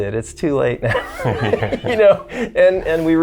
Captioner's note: both chuckling